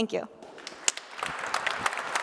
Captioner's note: applause